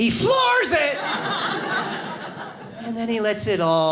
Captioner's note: audience laughs